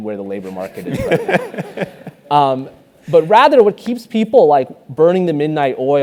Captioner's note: laugh